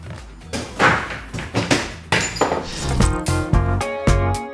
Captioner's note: objects clatter